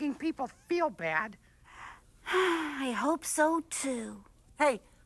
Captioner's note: sighs